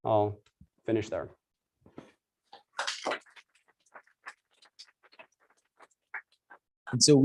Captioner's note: applause